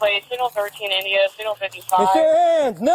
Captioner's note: radio chatter